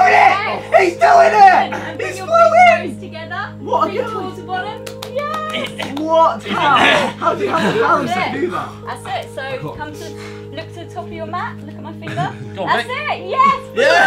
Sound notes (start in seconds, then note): 5.8 applauding